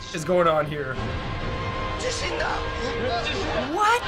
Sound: speaking in Japanese

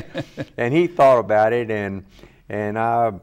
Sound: laughs

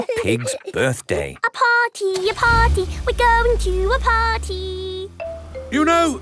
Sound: giggling; sing song voice

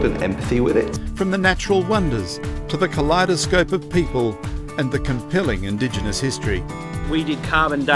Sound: voiceover

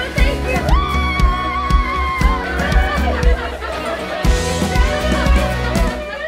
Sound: cheering loudly

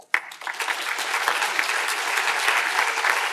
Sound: applause

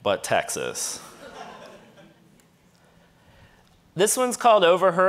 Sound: audience laughing

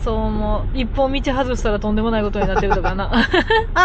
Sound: laughs

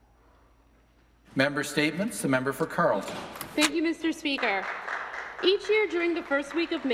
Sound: some Applause

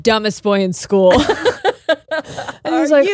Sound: both laughing

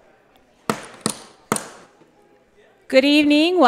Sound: gavel banging

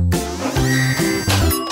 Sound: machinery sounds

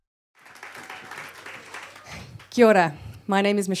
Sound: applause

